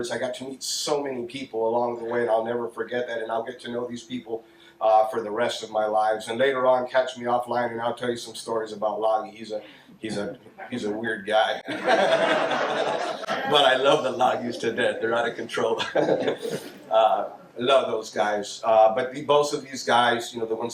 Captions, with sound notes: I got to meet so many people along the way and I'll never forget that. And I'll get to know these people for the rest of my life. And later on, catch me offline, and I'll tell you some stories about Lage. He's a weird guy. (audience laughs) - But I love the Lages to death. They're not a control (laughs). I love those guys. But both of these guys, you know,